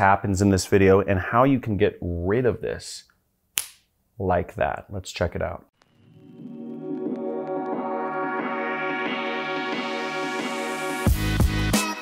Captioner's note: snaps